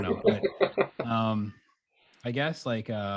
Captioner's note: laughing